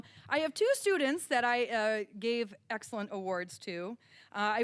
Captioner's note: none